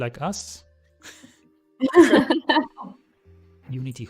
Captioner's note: laughter